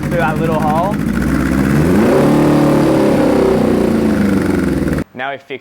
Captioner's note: revving speeds up